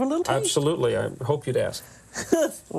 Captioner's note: Julia laughs